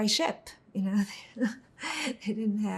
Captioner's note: laughing